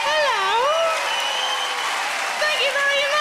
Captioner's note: audience cheering and clapping